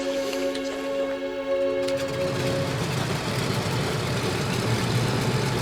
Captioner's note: aeroplane engine rumbling